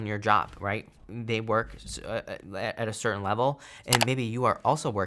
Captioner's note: mouse clicking